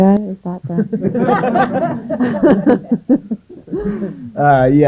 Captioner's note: laughter